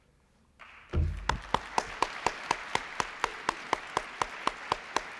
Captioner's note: applause